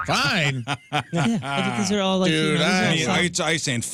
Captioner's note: laughing